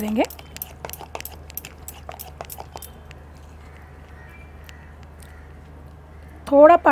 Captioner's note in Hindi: बैटर मिक्स करने का आवाज